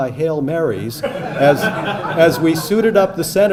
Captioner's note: audience laughing